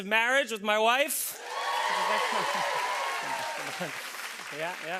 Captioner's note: cheers and applause